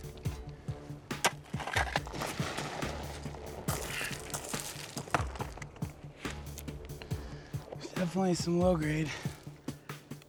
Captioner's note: digging